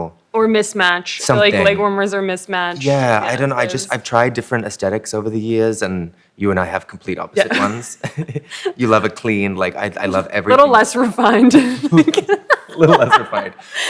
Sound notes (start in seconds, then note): 7.4 chuckles; 11.8 laughter